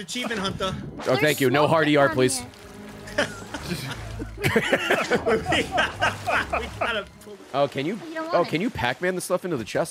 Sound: laughs

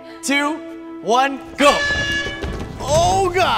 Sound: horn blares

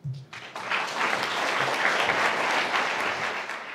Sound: applause

